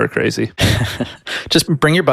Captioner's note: chuckles